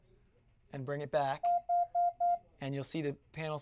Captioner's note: beeping